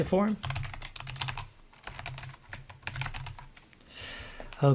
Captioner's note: keyboard keys clank